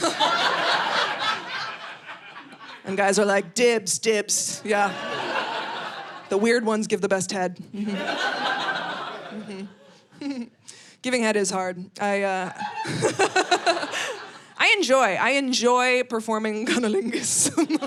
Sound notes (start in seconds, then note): 0.0 audience laughing; 7.8 audience laughing; 12.5 laughing